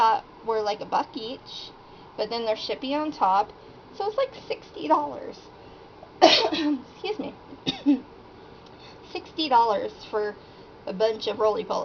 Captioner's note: cough